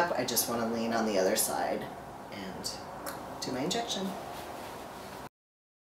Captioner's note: clicking sound